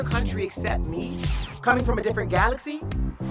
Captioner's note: upbeat funky music; transition whooshes